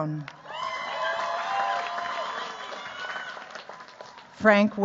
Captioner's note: cheers, applause